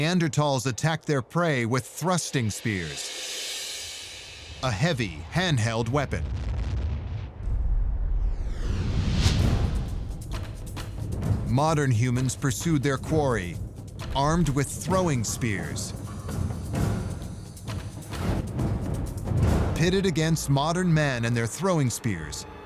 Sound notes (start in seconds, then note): 6.0 deep rumble; 8.8 tense adventure music